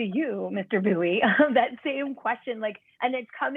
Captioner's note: laughter